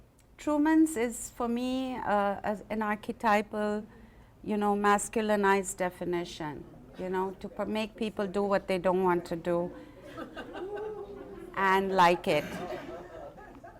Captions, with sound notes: Truman says, for me as, an archetypal, you know, masculinized definition. You know, to make people do what they don’t want to do. And like it. [Laughter]